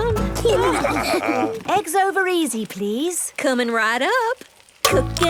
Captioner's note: laughing